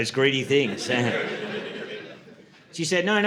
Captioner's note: audience laughing